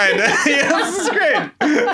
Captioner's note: laughs